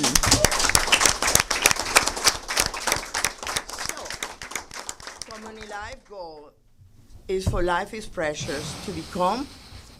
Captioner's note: applause